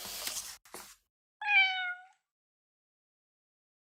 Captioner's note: cat meows